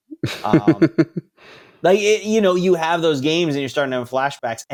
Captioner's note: laughs